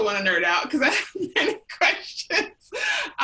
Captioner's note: laughs